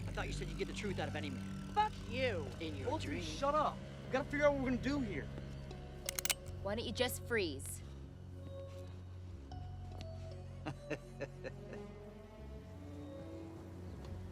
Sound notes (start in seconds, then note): 10.9 Clive chuckles